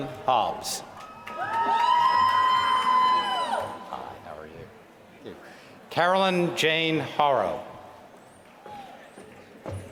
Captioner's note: applause